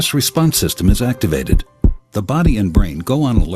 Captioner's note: heartbeat thumping